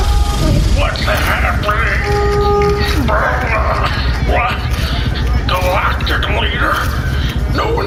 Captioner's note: groaning